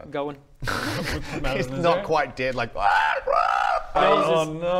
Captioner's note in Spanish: chillidos de muerte